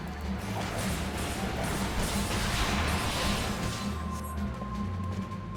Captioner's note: gunshots